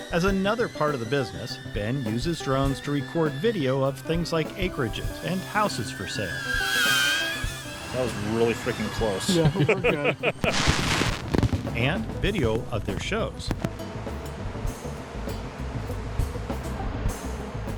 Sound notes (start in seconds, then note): 6.4 drone whirring; 9.2 laughs; 10.3 fireworks crackles and pops; 13.7 upbeat music